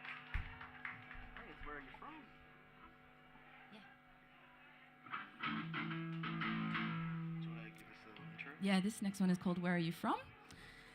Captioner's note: applause